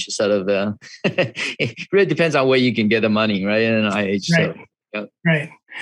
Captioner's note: laughs